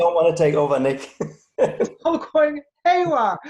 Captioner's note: chuckles